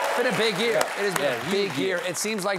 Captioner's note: cheers and applause